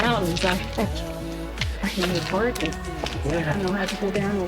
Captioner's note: chuckles